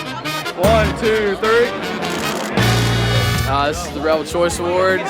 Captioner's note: energetic music; voiceover